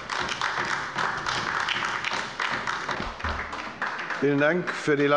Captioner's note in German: Beifall bei der LINKEN